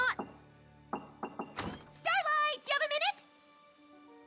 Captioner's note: knocking